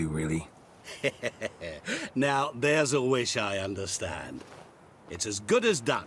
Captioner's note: chuckles